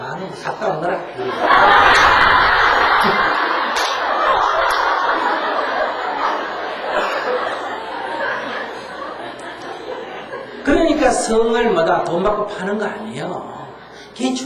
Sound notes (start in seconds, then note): 1.1 audience Laughter